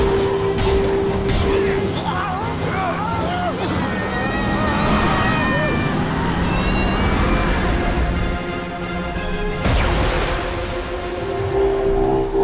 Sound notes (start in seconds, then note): 1.6 groaning; 2.6 screaming